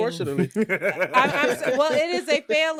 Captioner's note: laughing